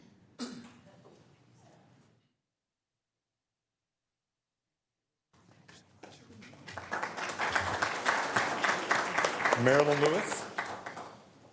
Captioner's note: applause